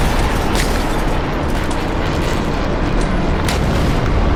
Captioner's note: dramatic instrumental music; gun firing